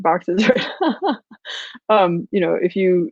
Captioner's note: laughs